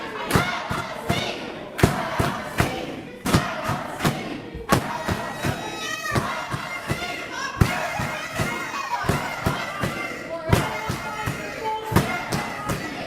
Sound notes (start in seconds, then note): 0.0 audience chanting let us speak